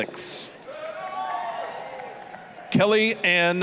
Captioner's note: applause, cheering